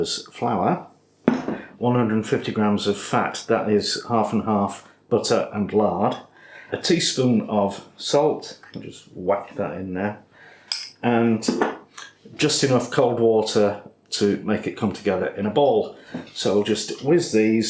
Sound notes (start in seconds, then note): none